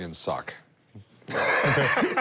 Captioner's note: laughs